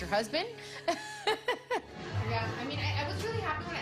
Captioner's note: laughs